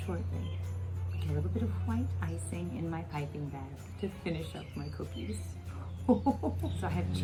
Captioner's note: ho-ho-ho chuckles